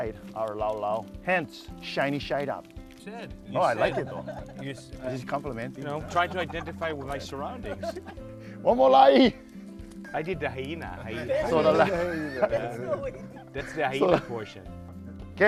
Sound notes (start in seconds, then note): 11.1 laughing